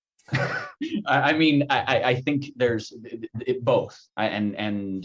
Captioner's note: chuckles